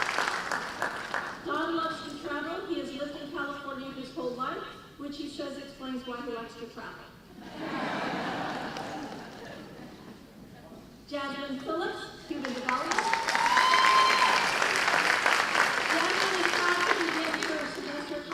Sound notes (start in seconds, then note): 7.4 laughing; 12.5 cheers and applause